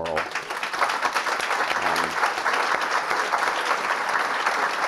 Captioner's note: audience applauding